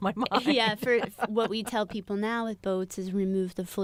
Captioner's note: laughter